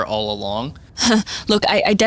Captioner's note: Goldstar laughs nervously